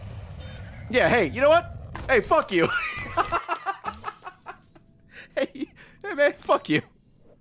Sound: laughs

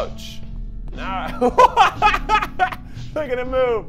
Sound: laughs

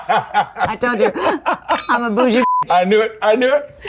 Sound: laughs; beep noise

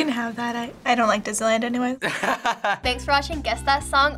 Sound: laughing

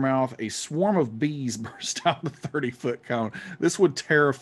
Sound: laughing

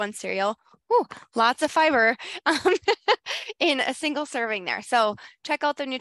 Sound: laughs

